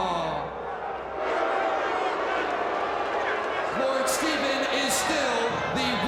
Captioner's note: crowd cheering